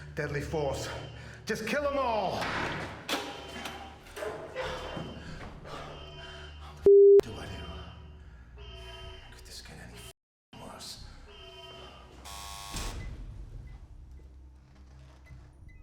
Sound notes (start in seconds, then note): 3.4 alarm blaring; 12.3 door lock beeping